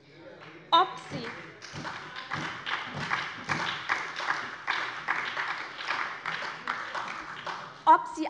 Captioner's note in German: Beifall bei der SPD